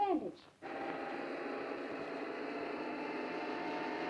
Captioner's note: car engine roars